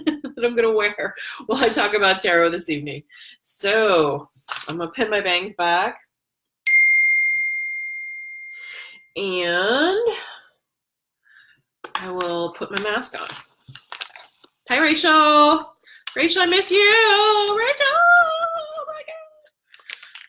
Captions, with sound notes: that I'm gonna wear while I talk about tarot this evening. So I'm gonna pin my bangs back. (bell dings) I will put my mask on. Hi, Rachel. Rachel, I miss you, Rachel, my god.